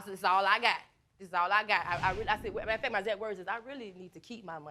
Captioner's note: stammering